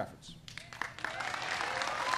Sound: applause

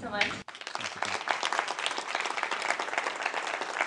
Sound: applause

